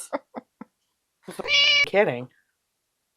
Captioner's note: meow